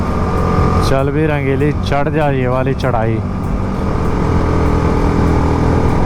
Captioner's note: motorcycle